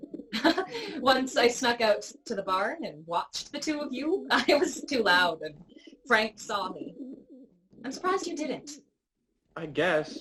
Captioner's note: laughter